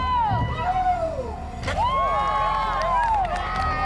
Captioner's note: crowd cheering